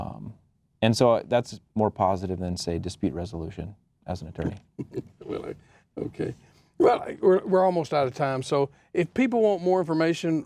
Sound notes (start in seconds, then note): 4.7 laughs